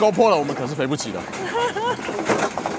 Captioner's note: gulp